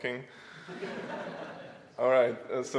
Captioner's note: audience laughs